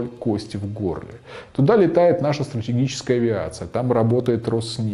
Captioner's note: Russian